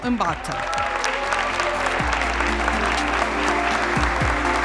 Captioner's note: audience applauds